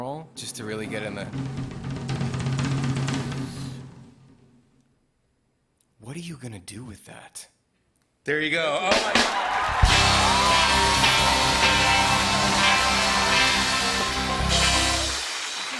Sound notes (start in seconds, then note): 4.1 drumroll; 8.8 cheers and applause